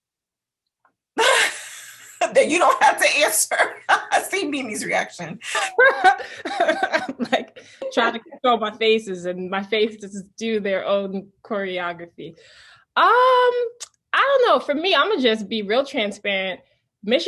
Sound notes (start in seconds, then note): 0.2 laughs; 5.4 laughs